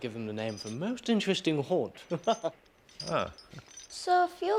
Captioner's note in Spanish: risas